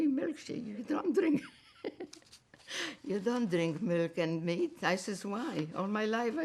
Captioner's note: laughing